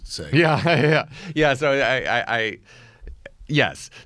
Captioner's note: laughs